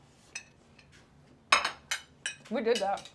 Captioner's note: plate clinking